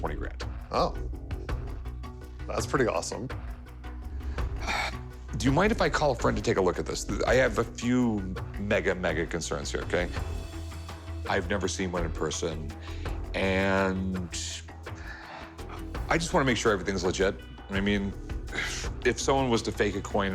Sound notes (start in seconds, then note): 4.2 sighs